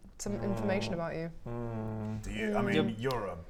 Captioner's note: concerned hmm